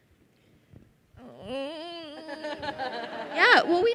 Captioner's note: host vocalizing